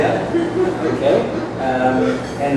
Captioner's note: laughing